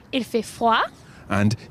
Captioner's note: speaks in foreign language